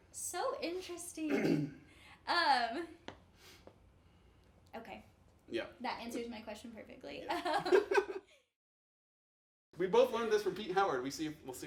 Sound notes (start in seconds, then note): 7.5 laughs